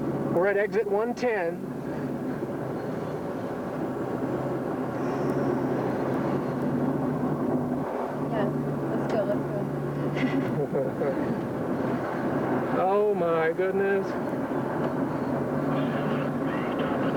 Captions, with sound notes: WE'RE AT EXIT 110. YEAH. LET'S GO. LET'S GO. [CHUCKLING] OH, MY GOODNESS! [RADIO COMMUNICATIONS]